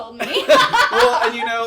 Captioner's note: laugh